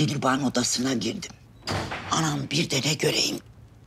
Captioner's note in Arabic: يفتح الباب